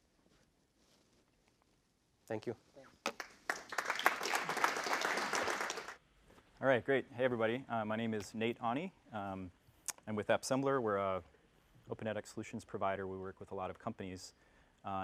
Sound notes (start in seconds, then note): 3.0 applause